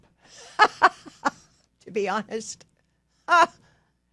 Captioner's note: laughs